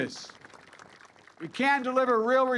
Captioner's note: applause